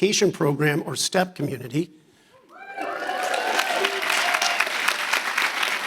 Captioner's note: audience applauding